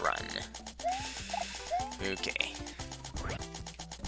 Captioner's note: breathing